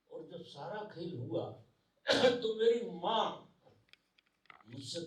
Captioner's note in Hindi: नाक से की जाने वाली आवाज़